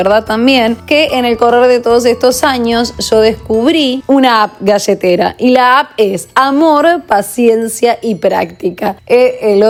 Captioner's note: in Spanish